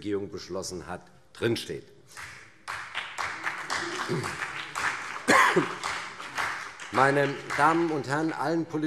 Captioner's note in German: Vereinzelter Beifall CDU und BÜNDNIS 90/DIE GRÜNEN